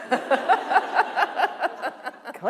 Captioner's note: laughter